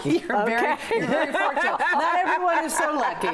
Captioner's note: laughter